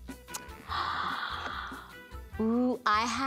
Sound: gasps

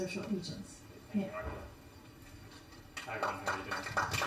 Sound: applause

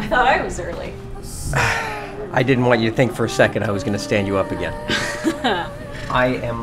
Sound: sigh

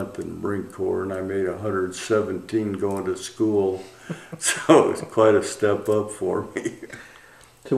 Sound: laughter

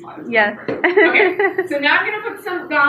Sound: laughs

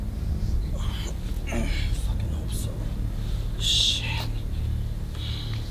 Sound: grunts

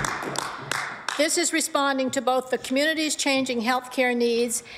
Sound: applause

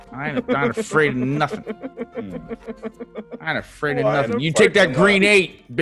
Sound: laugh

